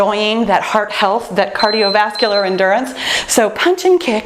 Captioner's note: timer beeps